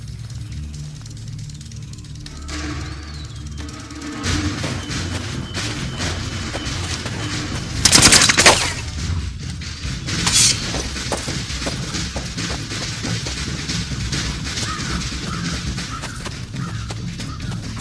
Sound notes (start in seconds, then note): 7.8 rapid automatic gunfire